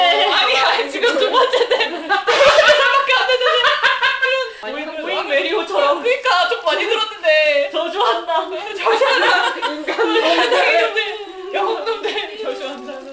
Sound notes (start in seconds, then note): 2.3 laughs